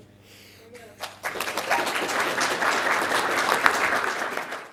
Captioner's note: audience applause